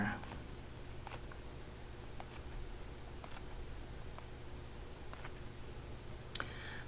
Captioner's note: writing Sounds